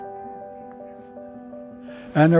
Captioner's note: background talking